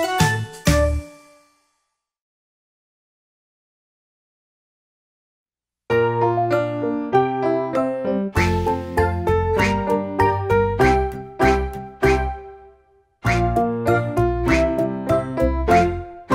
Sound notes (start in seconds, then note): 9.6 ducks quacking